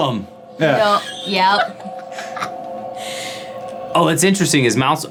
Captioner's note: laughing